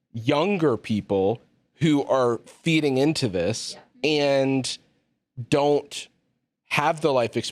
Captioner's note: none